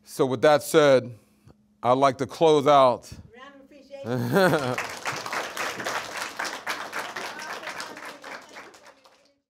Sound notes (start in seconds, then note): 4.0 laughs; 4.3 audience applauds